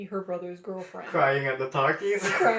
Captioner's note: laughter